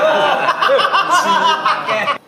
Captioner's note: OR KIA laughs